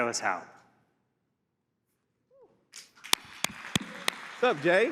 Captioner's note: applause